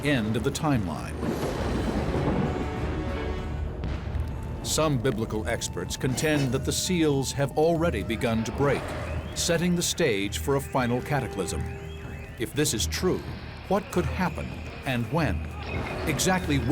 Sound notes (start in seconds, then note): 0.6 thunder; 3.2 explosion